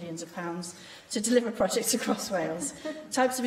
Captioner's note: laughter